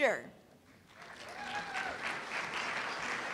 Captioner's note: applause